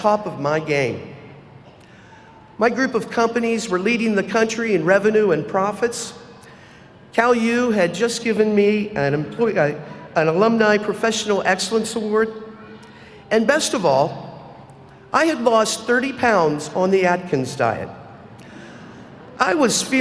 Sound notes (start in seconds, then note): none